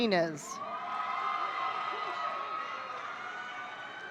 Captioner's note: audience cheering